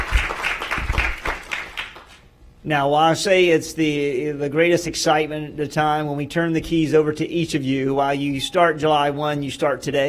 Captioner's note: applause